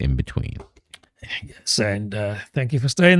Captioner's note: uh